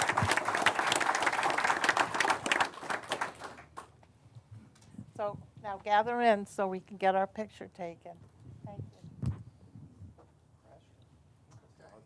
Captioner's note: applause